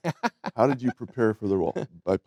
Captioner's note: chuckling